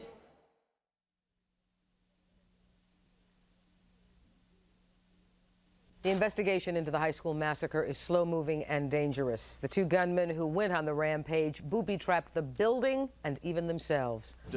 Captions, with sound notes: [Silence] [Faint TV static] The investigation into the high school massacre is slow moving and dangerous. The two gunmen who went on the rampage booby-trapped the building and even themselves.